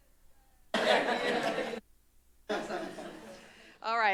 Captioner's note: laugh